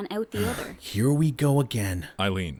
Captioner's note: sighs